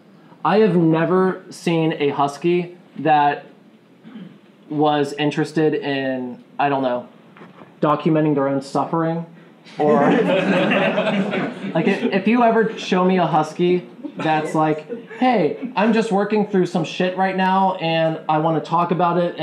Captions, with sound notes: I have never seen a husky that was interested in documenting their own suffering. [laughing] If you ever show me a husky that's like, Hey, I'm just working through some shit right now and I want to talk about it